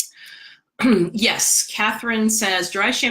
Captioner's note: clears throat